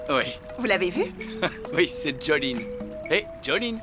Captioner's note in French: rires